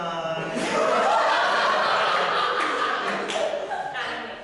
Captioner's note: audience laughter